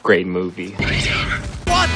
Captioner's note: screeech